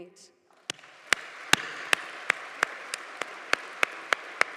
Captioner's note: audience applauding